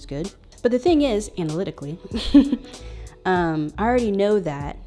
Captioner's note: chuckles